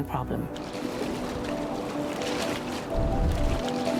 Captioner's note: water splashing